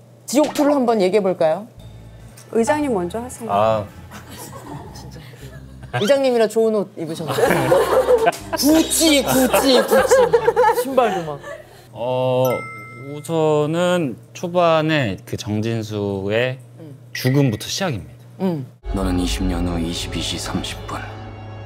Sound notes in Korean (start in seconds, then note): 4.1 ㅋㅋ